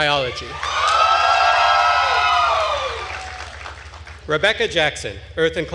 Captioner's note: attendees cheering and applauding